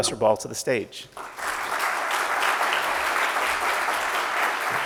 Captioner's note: audience claps